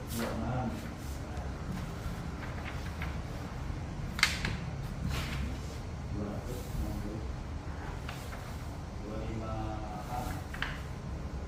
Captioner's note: PET film noise